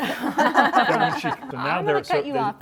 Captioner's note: laughter